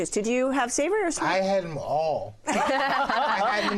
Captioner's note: laughter